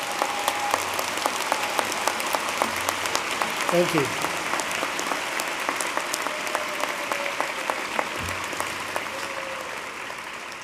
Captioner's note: applause